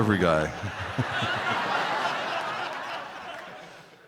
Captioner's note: crowd laughing